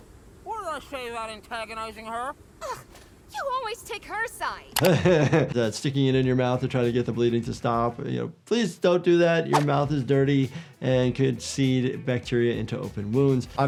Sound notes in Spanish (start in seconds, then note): 4.8 risas